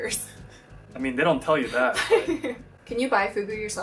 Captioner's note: laughs